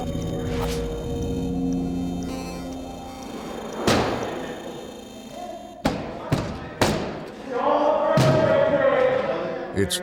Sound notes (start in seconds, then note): 4.3 banging; 7.6 yelling